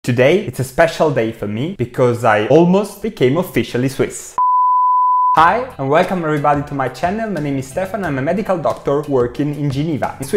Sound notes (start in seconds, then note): 4.4 beep